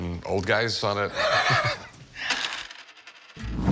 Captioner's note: laughs